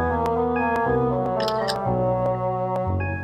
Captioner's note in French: bip de l'ordinateur; clics de l'obturateur